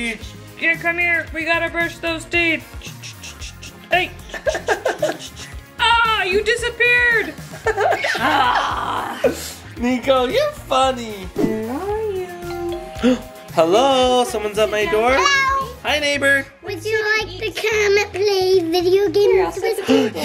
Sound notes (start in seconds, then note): 8.2 mom groaning; 12.4 doorbell ringing